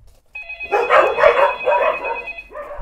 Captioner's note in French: aboiements